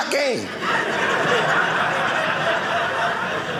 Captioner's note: audience laughing